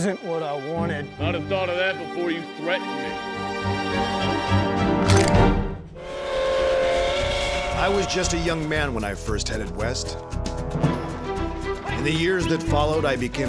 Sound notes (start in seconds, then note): 4.0 tense music; 6.1 train whistle blows